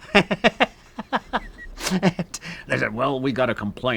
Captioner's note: laughing